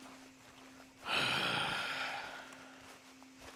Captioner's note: sighs